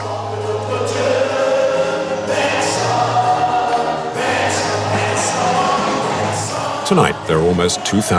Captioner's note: foreign language